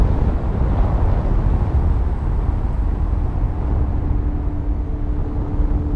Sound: strong winds continue blowing

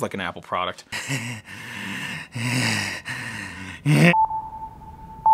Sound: breathing heavily; beeping

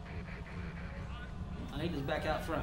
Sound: static drowns out dialogue

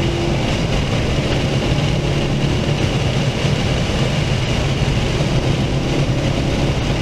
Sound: wind noise

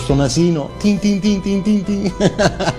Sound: laughs

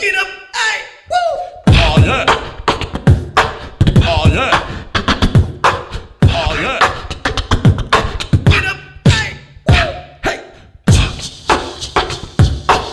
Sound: beatboxing

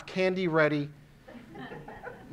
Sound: audience laughing

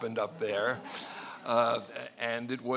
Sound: laughing

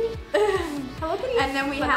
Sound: laughs

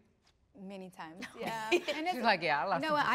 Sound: laughs

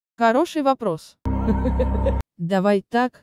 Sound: creepy laugh

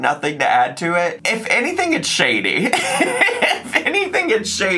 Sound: laughs

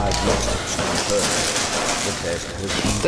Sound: cereal bag crunches

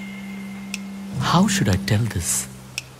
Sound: snaps finger

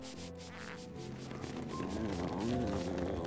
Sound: satisfied purr

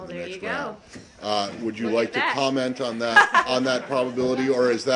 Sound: laughter

